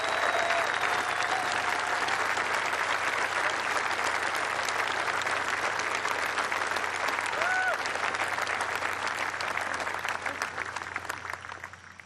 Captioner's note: cheers and applause